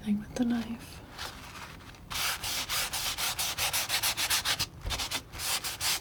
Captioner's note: scratching